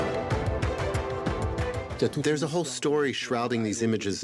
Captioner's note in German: Beifall